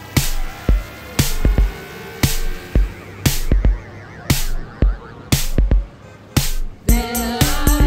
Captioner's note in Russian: шум транспорта